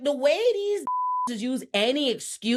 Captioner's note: beep